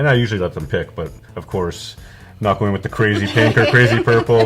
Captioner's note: laughing